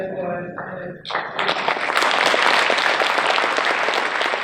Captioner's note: audience cheers